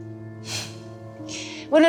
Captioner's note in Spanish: Suspiro